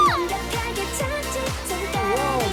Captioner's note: swoosh